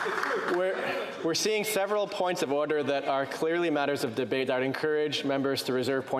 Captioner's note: some Applause